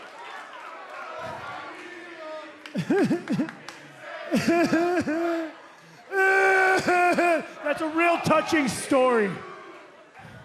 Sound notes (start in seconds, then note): 0.0 cheers and applause; 4.4 fake crying